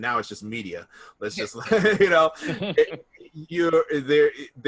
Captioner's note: laughs